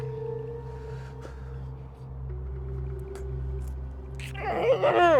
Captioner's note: Josh groaning